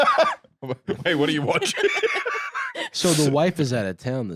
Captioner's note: laughing; laughs